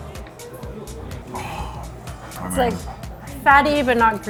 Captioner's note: sighs